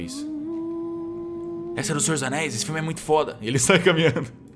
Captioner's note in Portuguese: cantarolando